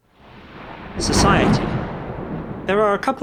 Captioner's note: thunder in the background